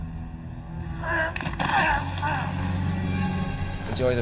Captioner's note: gurgling